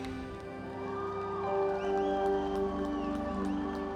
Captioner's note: cheers and applause